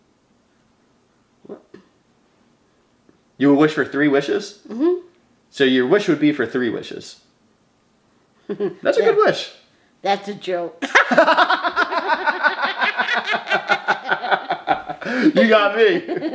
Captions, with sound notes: You would wish for three wishes? So your wish would be for three wishes. That's a good wish. - That's a joke. (both laughing) - You got me!